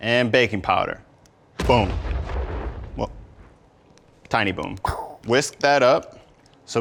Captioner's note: explosion sound